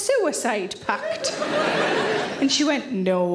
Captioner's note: audience laughing